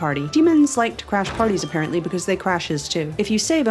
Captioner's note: crashes open